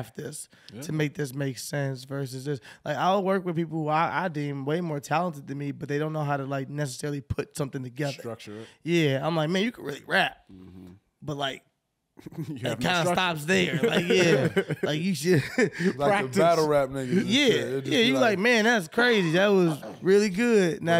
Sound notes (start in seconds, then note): 12.3 laughing